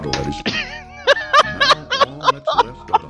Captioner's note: laughing